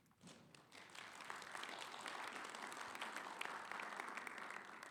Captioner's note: audience applauding